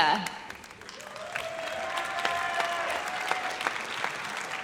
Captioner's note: audience cheers